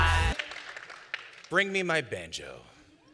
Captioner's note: scattered applause